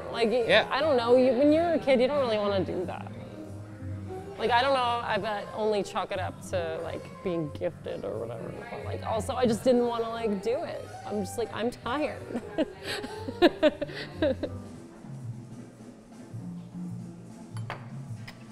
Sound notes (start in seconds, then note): 12.2 laughs